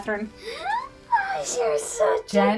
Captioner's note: gasps and coos